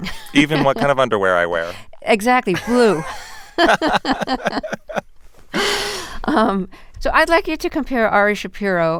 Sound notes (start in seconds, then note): 2.5 laughter